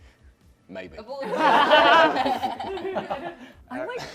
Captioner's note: laughter